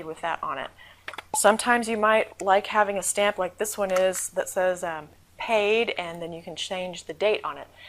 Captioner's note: pop